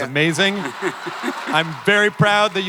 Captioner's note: audience and panel laughter